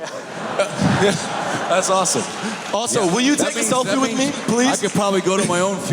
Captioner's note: cheers